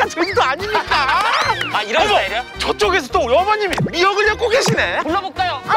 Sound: clapping

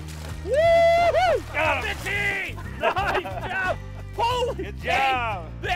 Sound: laughing

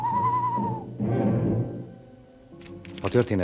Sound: hoots

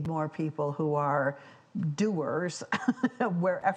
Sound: laughs

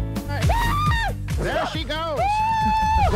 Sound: upbeat guitar music; screams

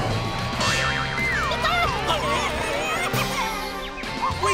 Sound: clucking

